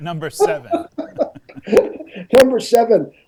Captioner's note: laughs